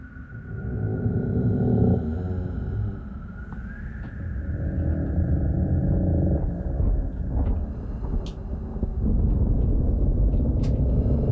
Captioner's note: creaking